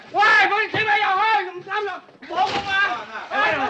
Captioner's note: yelling